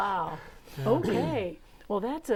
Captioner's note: laughing